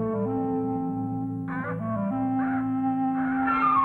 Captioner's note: hawk squawks; suspenseful music